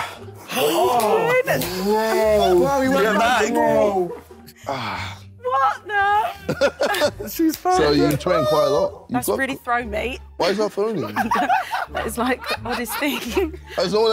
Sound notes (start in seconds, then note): 4.8 JJ exhales